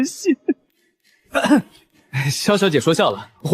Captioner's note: cough